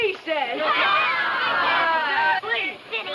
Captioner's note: children laughing